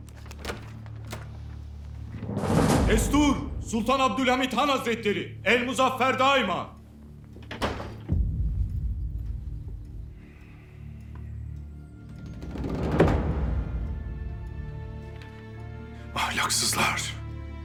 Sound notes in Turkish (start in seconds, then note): 0.0 Kapı açılma sesi; 7.4 Kapı kapanma sesi; 9.2 Müzik - Gerilim